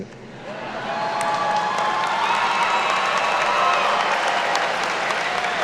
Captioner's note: attendees cheer and clap